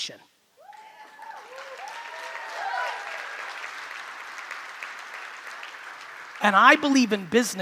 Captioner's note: crowd cheering; crowd clapping